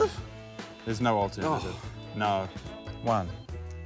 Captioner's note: sighs